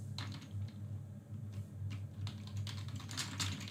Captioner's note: keyboard clicks